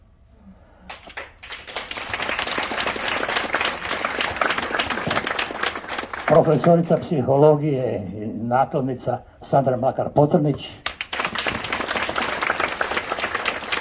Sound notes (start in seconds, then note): 10.8 applause…